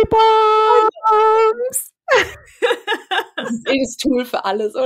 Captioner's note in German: lachen